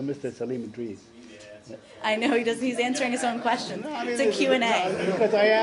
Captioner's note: laughter